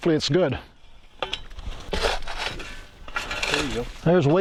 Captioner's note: digging